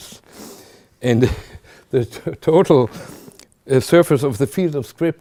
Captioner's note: chuckling